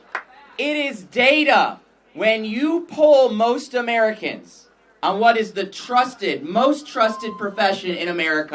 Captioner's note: applause